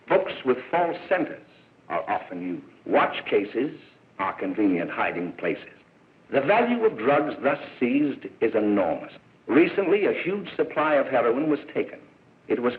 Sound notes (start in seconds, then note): none